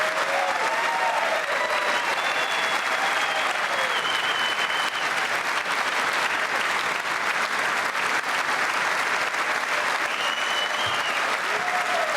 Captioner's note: cheers and applause